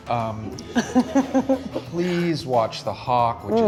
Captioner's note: laughs